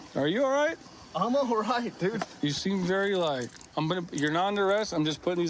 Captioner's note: none